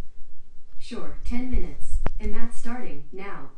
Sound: computer Voice

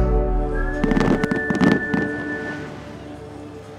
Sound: fireworks popping

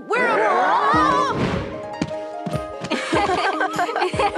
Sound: both laugh

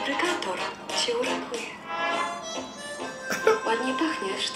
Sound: foreign language; laugh; foreign language

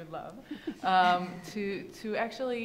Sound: women chuckle

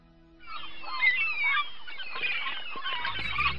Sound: seagulls calling

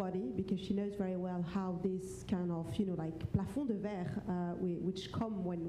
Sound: foreign language

